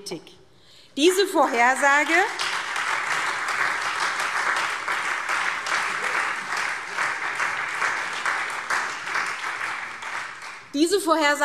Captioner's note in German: Beifall SPD und Freie Demokraten